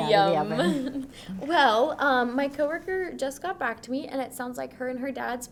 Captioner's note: laughs